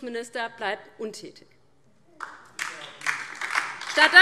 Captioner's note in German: Beifall DIE LINKE